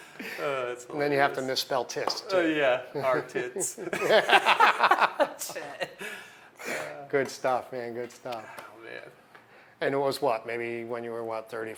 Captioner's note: laughter